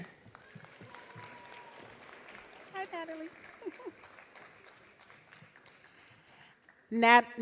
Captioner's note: applause